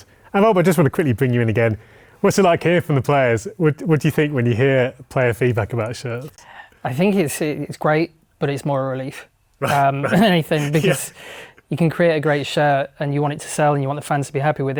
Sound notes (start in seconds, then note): 9.6 laughing